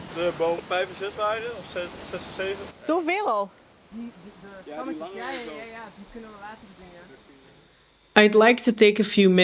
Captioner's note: dutch chatter